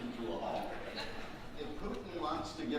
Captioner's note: audience laughing